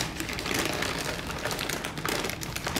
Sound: paper crinkling

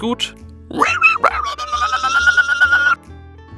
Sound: weird underwater hamster screams

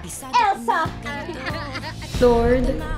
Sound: laugh

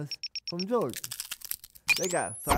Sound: beeping

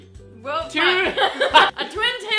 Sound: laughs

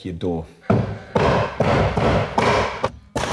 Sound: hammering; stapling

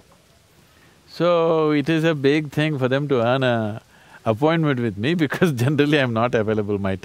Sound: laughs

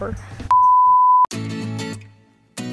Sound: beep; lighthearted guitar music

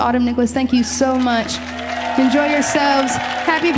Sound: audience applauding

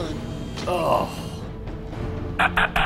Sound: groan

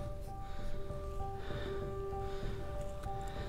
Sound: breathing

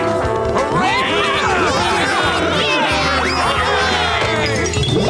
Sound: cheering

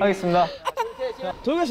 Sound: sobs

